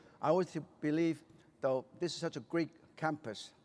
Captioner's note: none